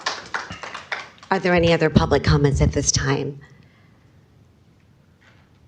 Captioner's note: applause